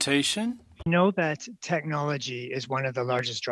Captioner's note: speaking in French